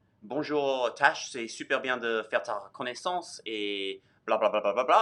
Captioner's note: speaks in foreign language